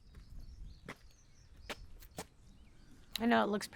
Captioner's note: footsteps approaching